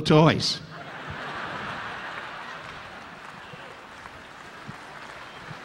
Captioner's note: audience laughing; audience applauding